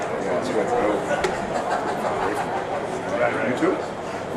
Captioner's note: speaks faintly